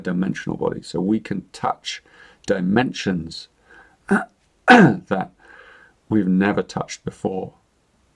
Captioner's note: clears throat